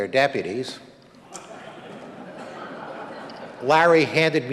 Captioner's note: audience laughing